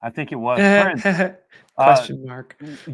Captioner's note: chuckles